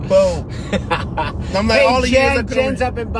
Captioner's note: laughter